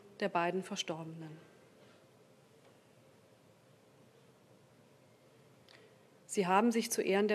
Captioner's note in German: Schweigeminute